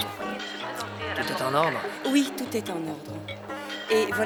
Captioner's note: speaking spanish